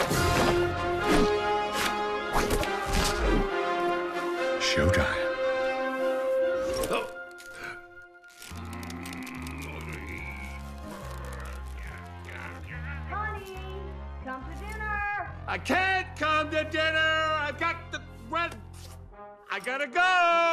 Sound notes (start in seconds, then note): 0.2 dramatic orchestral music; 8.5 grunting effortfully